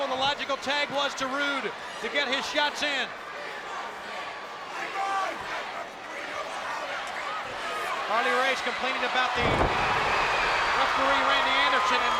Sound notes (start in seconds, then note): 3.1 crowd yelling